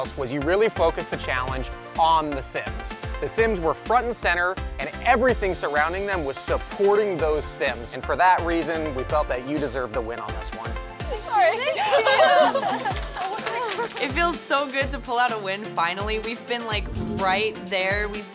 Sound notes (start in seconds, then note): 11.4 applause and laughter